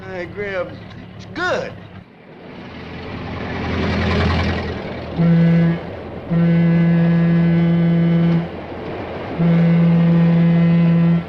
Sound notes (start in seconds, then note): 5.3 train whistle blows